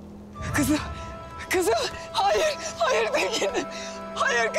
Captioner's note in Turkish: Ağlayarak haykırıyor